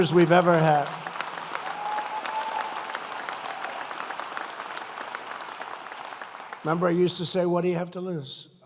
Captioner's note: applause